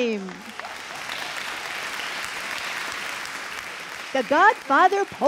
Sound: audience cheering and clapping

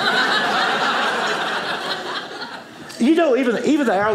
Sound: audience laughing

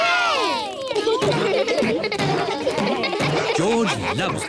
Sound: kids laughing

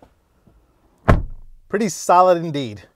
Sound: door slamming

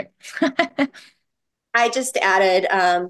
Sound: person laughing

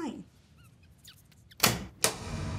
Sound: ferret whimpers

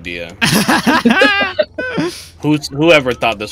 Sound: laughter

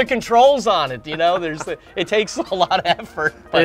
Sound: laughs

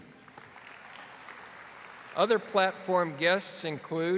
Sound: audience applauding

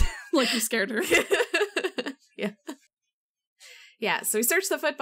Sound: laughs

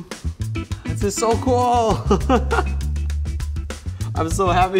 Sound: laughs

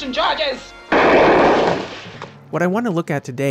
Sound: gunshot

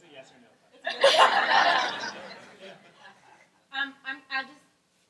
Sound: laughing

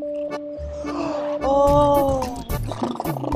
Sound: snoring

